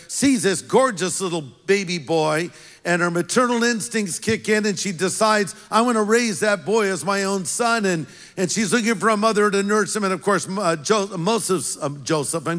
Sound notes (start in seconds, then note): none